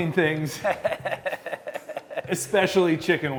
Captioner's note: laughing